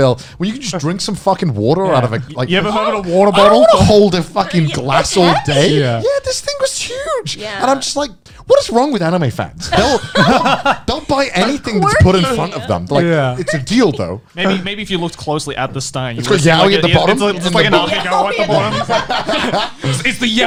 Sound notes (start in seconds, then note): 9.7 laughing